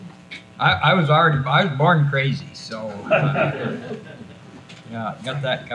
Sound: others laughing

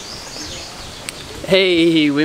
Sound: wind can be heard

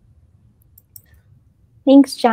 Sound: mouse clicking

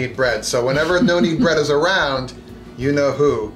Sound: laughing

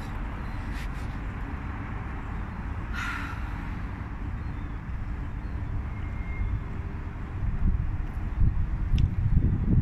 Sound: background noise, wind & sighing

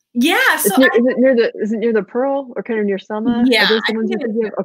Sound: murmurs

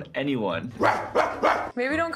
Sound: man barking

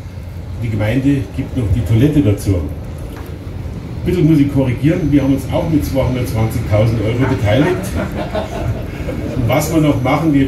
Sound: laughter in the audience

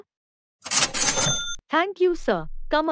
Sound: ka-ching

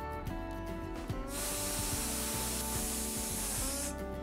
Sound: cooker whistle blowing

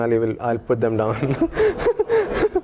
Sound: laugh

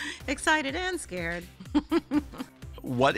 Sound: laughs

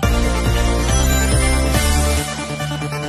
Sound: rings chiming

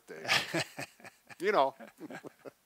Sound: laughing

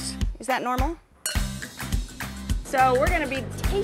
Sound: glasses clink

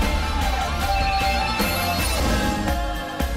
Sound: beeping

